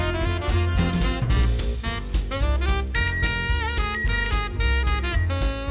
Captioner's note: beeping; beeping fades